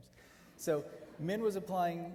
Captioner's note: audience laughing